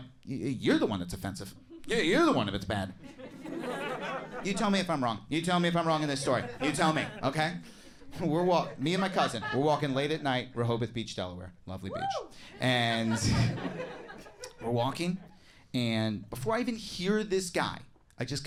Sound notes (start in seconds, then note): 2.8 audience chuckles; 12.5 audience members whoop/laugh